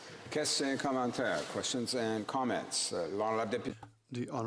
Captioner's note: speaking French